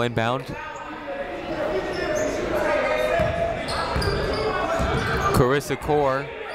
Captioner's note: people shouting in the crowd